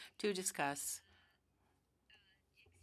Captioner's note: speaking French